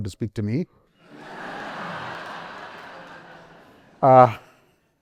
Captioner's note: laughter